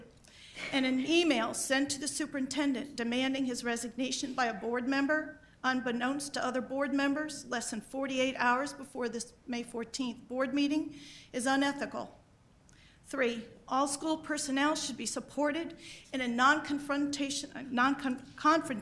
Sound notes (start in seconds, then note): none